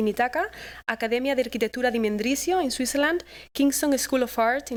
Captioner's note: non-english speech